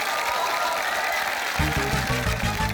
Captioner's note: cheering, applause